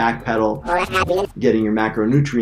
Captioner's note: reverse sound effects